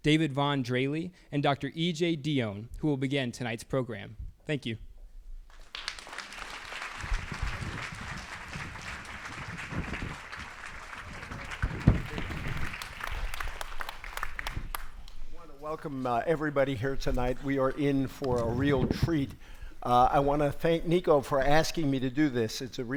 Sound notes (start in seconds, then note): 5.8 audience applauds